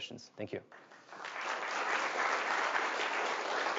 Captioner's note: applauding